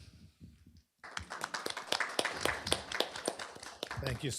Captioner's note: applause